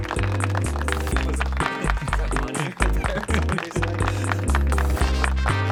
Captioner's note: applause